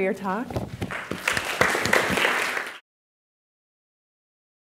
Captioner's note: applause